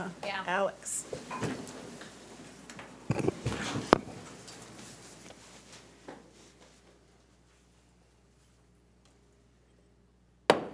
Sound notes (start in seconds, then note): 4.2 shuffling